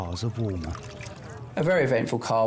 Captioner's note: water trickling